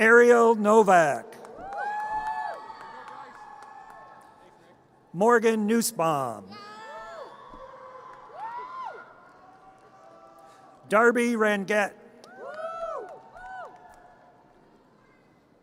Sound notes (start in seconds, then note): 1.3 audience cheers; 7.2 audience cheers; 12.3 audience cheers